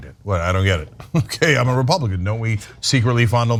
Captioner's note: laugh